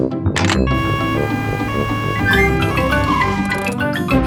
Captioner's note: siren wailing